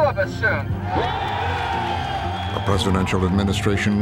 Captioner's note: crowd cheering